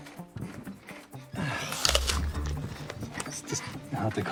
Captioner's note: crunching into apple